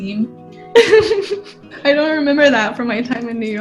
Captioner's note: laughs